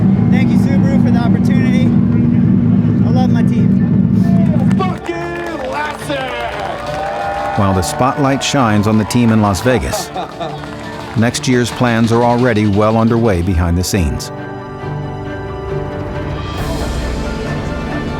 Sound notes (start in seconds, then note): 4.9 cheering